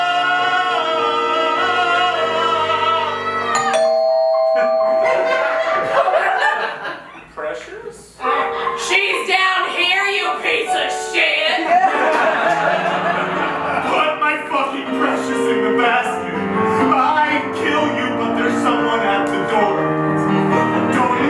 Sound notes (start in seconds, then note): 3.5 doorbell; 4.6 laughter; 11.6 laughter